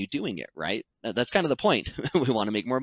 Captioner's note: laughs